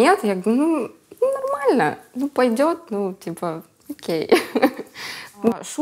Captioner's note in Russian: смеется